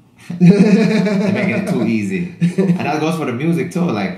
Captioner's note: laughs